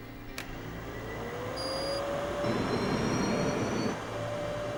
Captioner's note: beeping,</i> <i> Rising Whine Of Engines